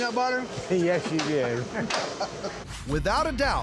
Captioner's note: laughs